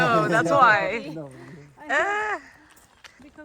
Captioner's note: laughing